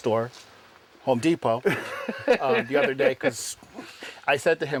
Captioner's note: laughter